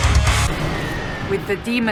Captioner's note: demonic Screams and Wolf Howls